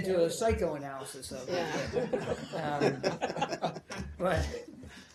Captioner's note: laughter